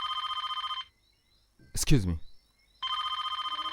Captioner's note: phone ringing